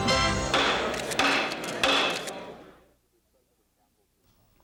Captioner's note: gavel banging